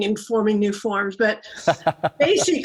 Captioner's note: laugh